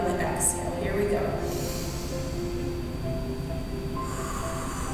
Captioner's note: inhale; exhale